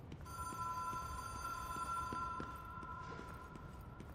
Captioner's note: phone rings louder